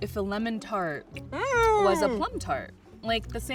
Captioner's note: moans in agreement